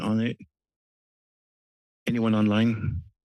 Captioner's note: pause